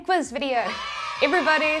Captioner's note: kids cheering